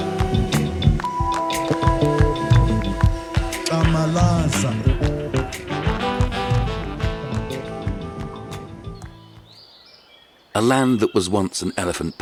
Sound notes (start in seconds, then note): 2.8 speaking foreign language; 7.5 birds chirping